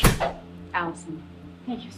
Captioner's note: door shutting